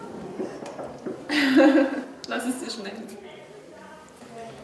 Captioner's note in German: Kichern